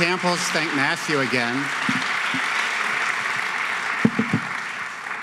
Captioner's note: applauding